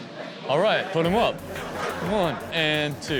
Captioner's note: audience laughing